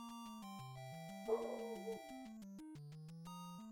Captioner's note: <i>Dog barks at Amazon driver in background</i>